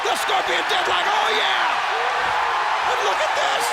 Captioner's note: audience cheers